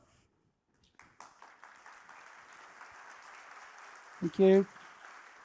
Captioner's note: applause